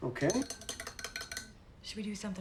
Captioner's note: spoon clinking